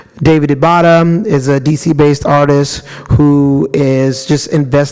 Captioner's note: none